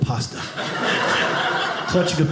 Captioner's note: audience laughing